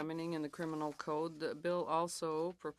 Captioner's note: speaking in French